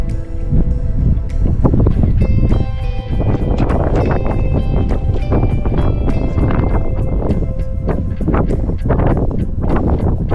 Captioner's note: wind blows